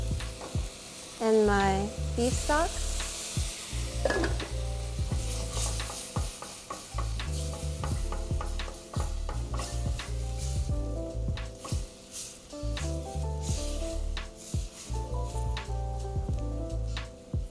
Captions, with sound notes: and my beef stock. (sauce sizzles) (modern jazz music)